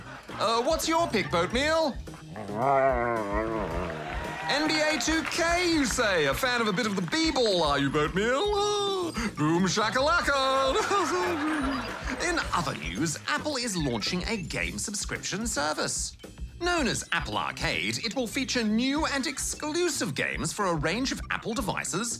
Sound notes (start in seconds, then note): 2.0 whines; 9.9 laughs